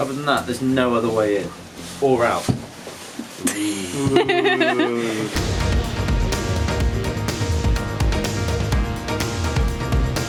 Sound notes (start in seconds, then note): 3.9 laughter; 5.3 energetic music